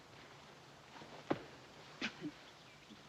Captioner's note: coughs